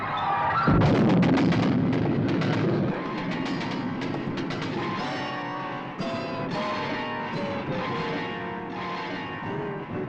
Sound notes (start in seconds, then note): 0.7 crashes; 5.6 dramatic music